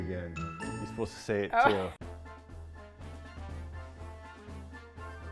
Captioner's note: laughs